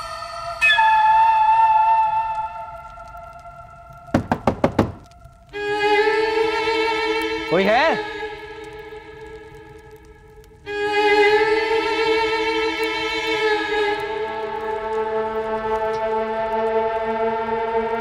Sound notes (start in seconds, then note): 0.5 eerie music; 4.1 knocking; 10.6 eerie music